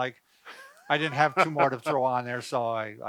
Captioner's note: chuckles